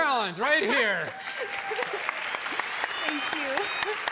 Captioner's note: cheers and applause